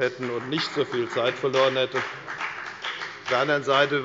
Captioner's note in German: Beifall bei der FDP